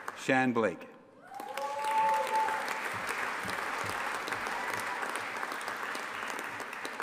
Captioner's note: audience applauding and cheering